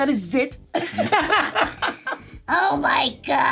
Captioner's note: laughs